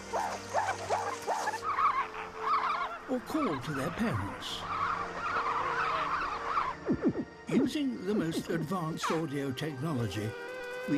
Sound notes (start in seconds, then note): 4.6 group squawking